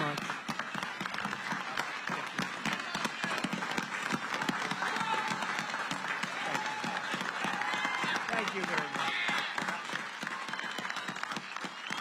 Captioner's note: applause